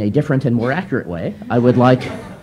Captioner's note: laughter